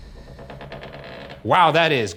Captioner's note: door creaks